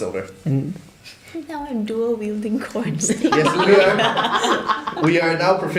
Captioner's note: laughter